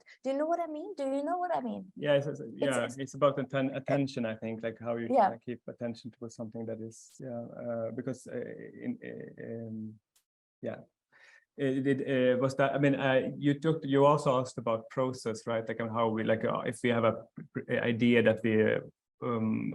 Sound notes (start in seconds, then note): 8.7 stammers